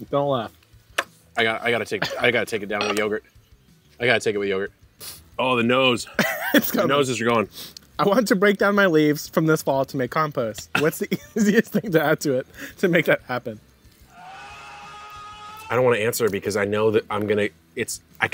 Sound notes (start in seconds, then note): 6.2 laughs; 14.1 person screaming